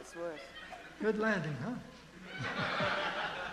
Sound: voiceover; audience laughing

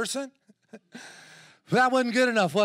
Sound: chuckles

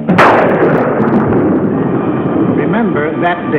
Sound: lightning crashing

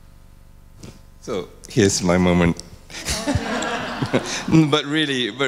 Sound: all laugh

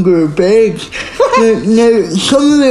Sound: laughing

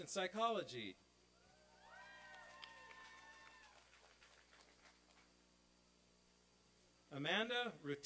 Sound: applause and cheering

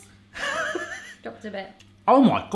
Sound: laughing

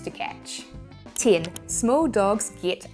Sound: graphics clicking

